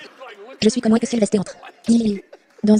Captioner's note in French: en riant